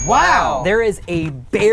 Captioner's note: bell dings